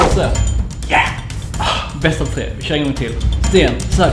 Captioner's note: sighs